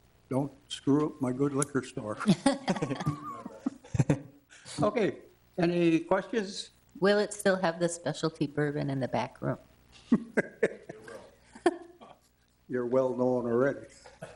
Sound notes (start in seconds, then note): 2.2 board members laugh; 4.3 board member chuckles; 10.0 laughs